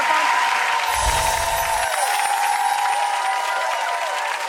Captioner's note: audience applause